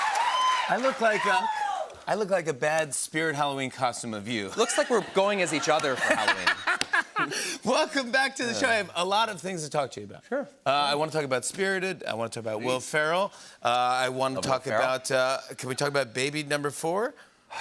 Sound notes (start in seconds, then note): 0.0 cheers and applause; 5.8 laughs